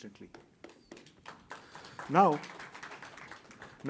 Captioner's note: applause